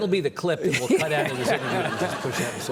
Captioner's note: audience laughing; Lawrence laughing